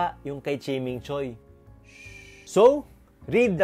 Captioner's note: shhhh